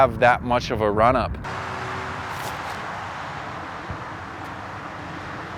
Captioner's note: air whooshing